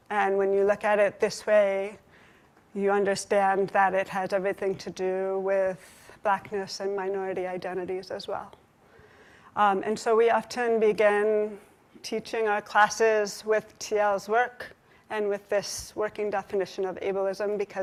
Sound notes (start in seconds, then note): none